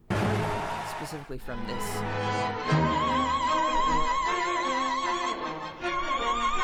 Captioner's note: laughs